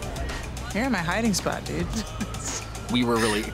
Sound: laughs

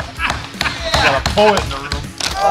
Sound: laughter

